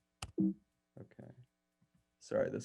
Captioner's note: computer keyboard tone beeps